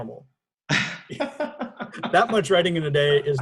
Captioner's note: laughs